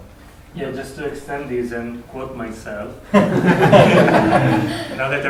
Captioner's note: laughter